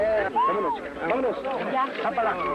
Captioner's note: baby crying